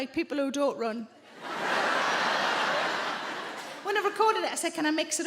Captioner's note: audience laughing